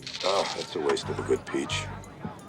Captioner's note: sizzle